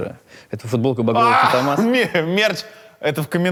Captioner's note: Dud shouts with excitement